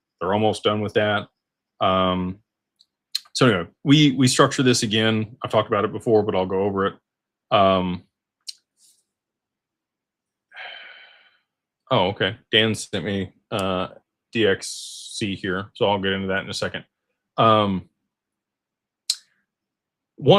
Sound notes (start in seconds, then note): 10.5 sighs